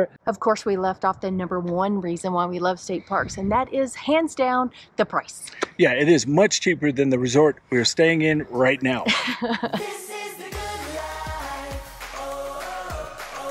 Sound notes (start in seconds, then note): 9.0 laughs